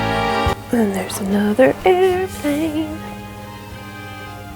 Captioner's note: singsong